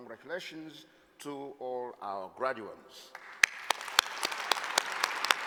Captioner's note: applause